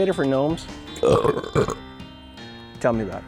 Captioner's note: burp